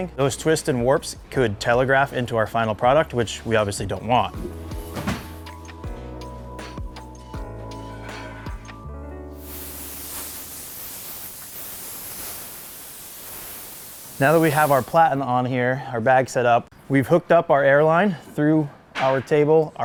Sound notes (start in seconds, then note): 4.8 mellow music; 9.3 air blowing